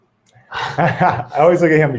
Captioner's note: laughing